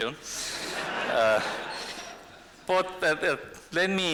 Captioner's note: laughter